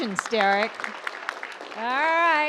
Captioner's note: audience applauds